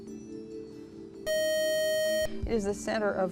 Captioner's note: buzzer